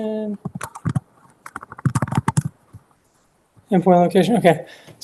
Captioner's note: keyboard clacking